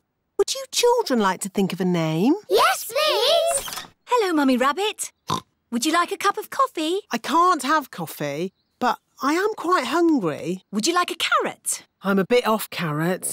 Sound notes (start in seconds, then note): 5.2 oinks